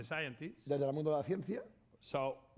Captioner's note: speaking spanish